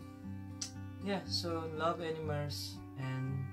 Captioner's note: tch